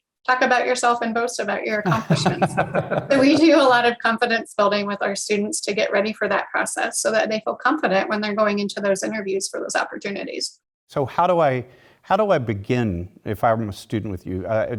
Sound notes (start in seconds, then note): 1.7 laugh